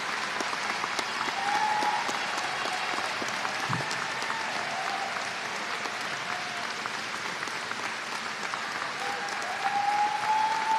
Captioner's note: applause